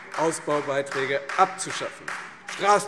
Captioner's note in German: Beifall Freie Demokraten